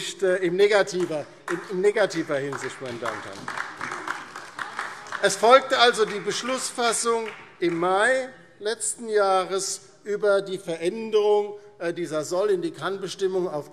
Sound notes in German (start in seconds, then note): 2.9 Beifall DIE LINKE und SPD